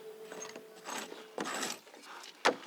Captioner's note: scratching noises